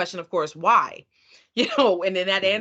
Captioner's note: chuckling